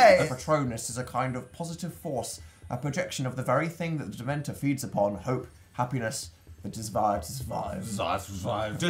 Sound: reads screen in smart wisard voice

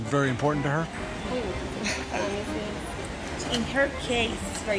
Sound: speaks spanish

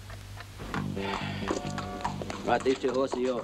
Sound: rapid instrumental music; McIntyre sighs

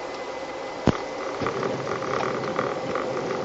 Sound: sound of touchdown

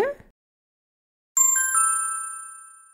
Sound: ding!

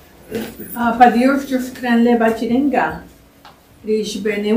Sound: non-english speech

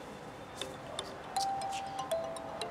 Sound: phone rings

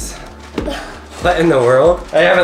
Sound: laughs

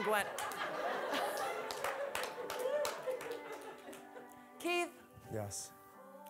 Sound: audience laughing

